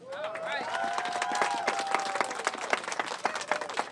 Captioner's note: applause